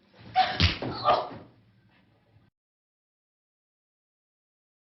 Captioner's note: fist thumping